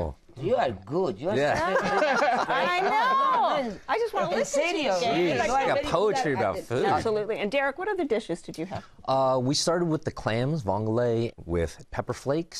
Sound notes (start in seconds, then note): 1.4 laughter